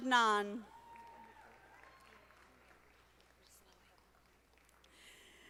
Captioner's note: audience applauding